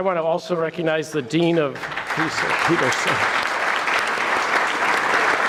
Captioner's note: audience clapping